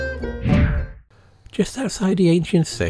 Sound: sultry maqam music continues; air whooshing

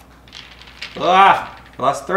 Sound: yells

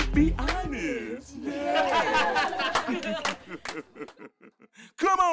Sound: laughing

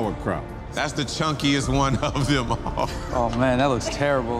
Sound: laughing

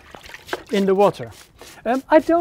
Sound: brushing

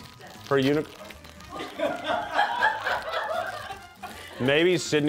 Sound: crew laughing

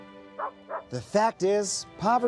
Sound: dog barking

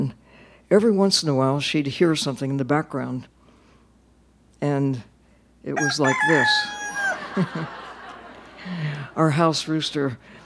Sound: rooster crows

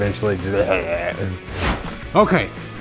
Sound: groaning

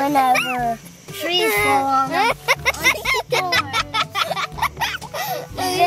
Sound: laughing; both laughing

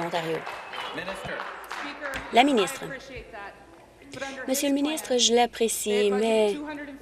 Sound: applause

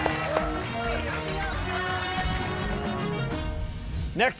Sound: cheers and applause

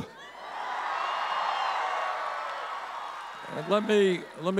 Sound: audience cheering

